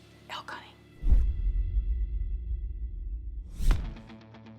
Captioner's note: logo swooshing